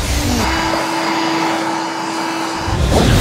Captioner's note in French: bruit d'aspirateur